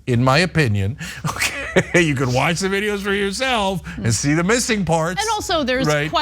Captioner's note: laugh